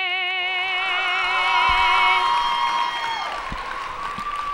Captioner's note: audience cheering